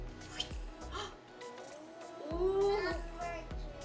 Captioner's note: gasping